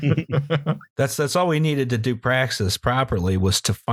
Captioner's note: laughter